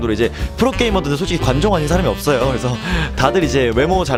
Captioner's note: laughs